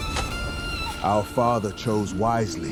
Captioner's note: nervous chatter